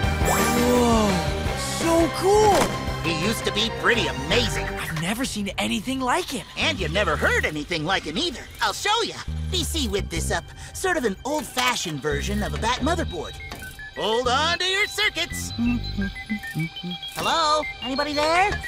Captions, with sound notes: Whoa! So cool! He used to be pretty amazing! I've never seen anything like him. And you've never heard anything like him either. I'll show ya. BC whipped this up. Sort of an old-fashioned version of a Bat-motherboard. -[digital beeping] -Hold on to your circuits. [humming] -[continues beeping] -Hello? Anybody there?